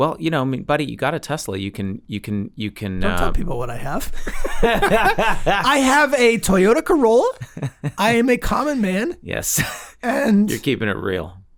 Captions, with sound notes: - Well, you know, buddy, you got a Tesla. You can-- - Don't tell people what I have. (all laugh) - I have a Toyota Corolla. I am a common man. - (laughs) Yes. - And.